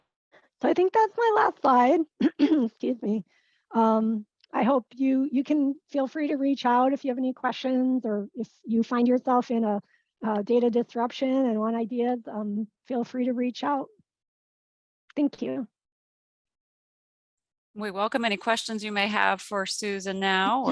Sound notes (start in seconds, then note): 2.1 coughs